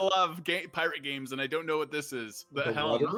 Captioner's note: laughs